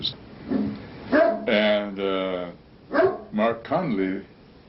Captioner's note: dog barks